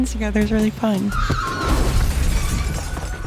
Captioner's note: glass shattering